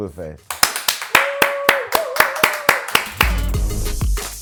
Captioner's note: applause; instrumental hip-hop music